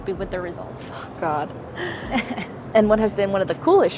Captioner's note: laughs